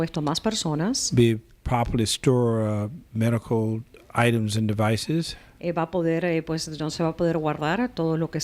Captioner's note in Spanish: Hablando ingl\s